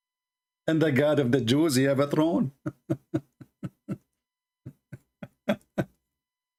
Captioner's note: Ketawa